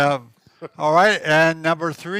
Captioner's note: laughs